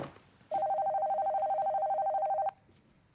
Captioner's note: ring tone